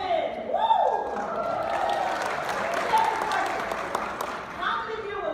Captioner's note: audience clapping